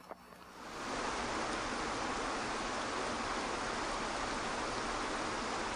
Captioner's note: waterfall loudly gushing